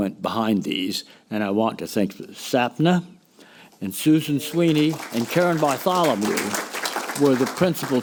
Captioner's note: applause